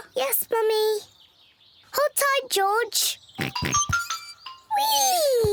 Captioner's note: oinks